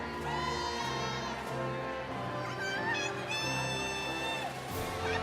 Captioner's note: audience cheering